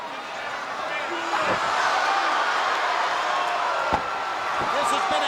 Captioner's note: crowd cheering; feet thudding